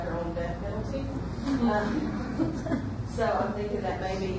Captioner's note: audience laughs